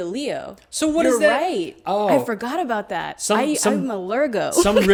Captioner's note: laughs